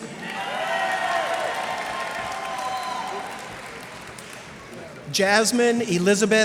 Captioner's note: cheers and applause